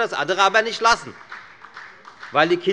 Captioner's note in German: Beifall bei der FDP